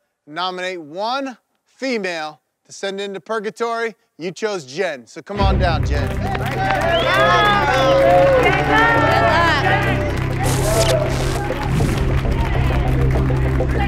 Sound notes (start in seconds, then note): 5.8 applauding and cheering; 8.9 tense atmosphere music